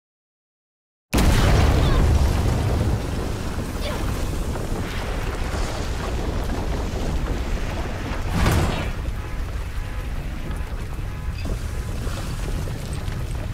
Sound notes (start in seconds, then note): 3.1 Lunella grunts